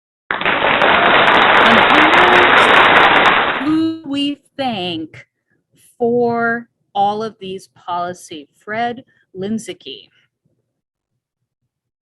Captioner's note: applause